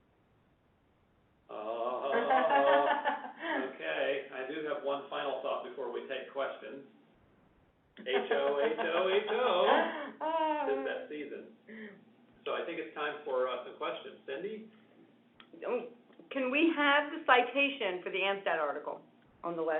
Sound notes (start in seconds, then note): 1.9 laughter; 10.8 laughs